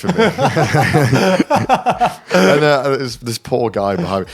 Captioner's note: all laughing